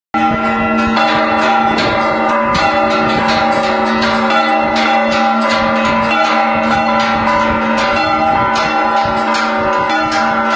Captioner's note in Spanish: sonidos de campanas